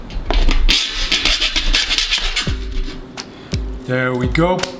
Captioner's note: metal scrapes